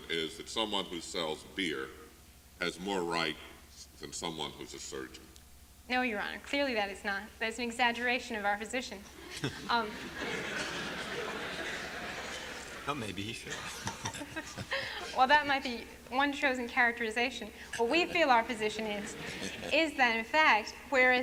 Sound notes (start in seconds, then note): 9.2 laughter